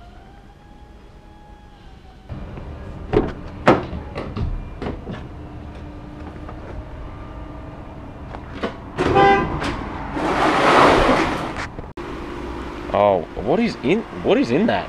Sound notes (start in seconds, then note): 9.0 horn; 9.1 scraping